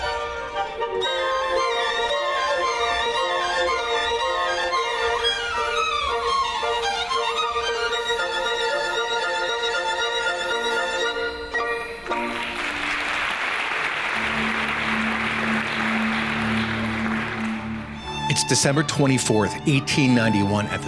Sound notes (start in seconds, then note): 12.1 audience applauding